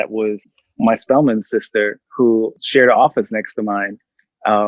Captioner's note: murmurs